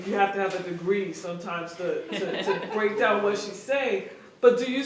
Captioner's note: laughter